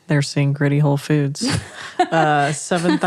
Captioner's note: laughing